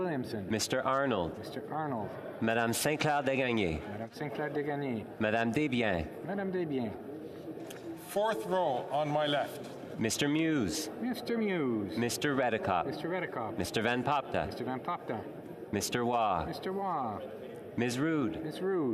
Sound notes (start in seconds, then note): 8.0 calling of recorded vote